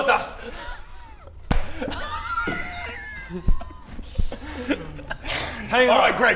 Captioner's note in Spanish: Risas contagiosas